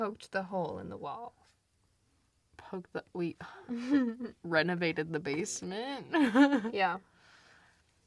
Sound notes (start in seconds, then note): 3.3 sighs; 3.7 laughs; 6.3 laughs